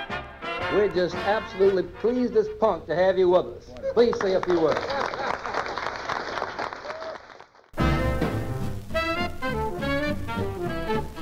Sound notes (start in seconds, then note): 4.0 applause; 9.9 big band music